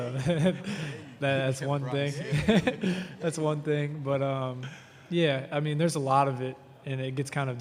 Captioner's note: laughter